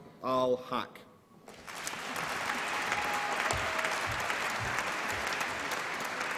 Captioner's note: applause and cheering